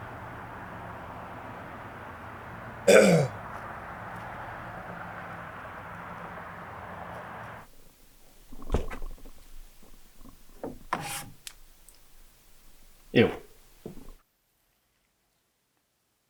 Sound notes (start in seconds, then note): 2.8 Jacob coughs; 11.2 finger swipes